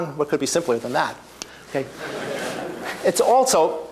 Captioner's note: laughter